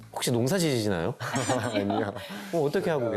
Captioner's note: laughs